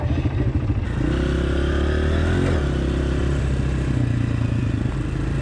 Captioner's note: bike engines roaring